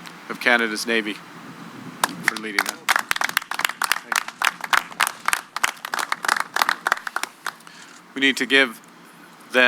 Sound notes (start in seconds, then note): 2.0 applause